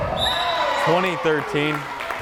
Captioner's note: whistle blares